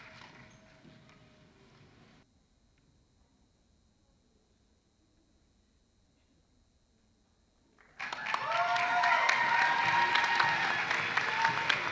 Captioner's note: applause